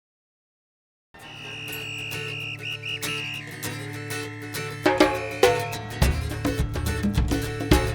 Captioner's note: whistle whistling; lively music